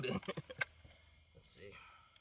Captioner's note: laughing